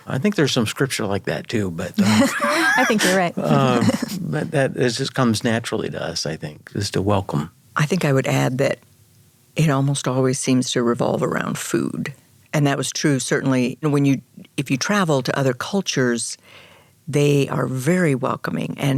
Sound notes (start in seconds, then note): 1.7 chuckles; 1.9 laughs